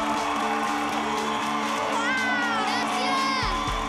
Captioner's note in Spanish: aplausos; exclamaciones